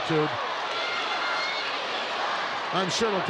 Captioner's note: crowd yelling